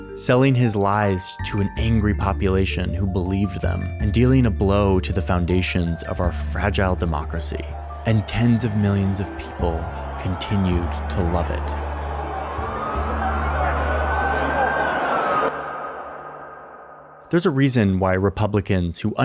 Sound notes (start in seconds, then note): 12.3 protesters jeering; 12.3 siren blaring